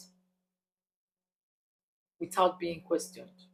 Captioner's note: paause